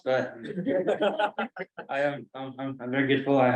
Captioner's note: colleagues laugh